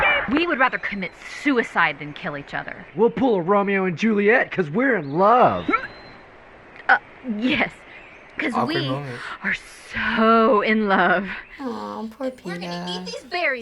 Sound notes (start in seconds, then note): 5.7 Katniss vomits